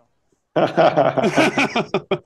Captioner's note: laughing